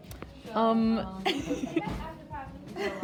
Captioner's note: laughs